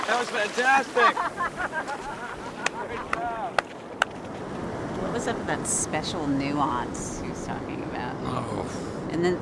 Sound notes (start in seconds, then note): 0.6 laughing; 3.8 applause